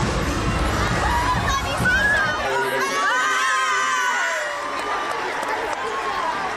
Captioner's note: cheering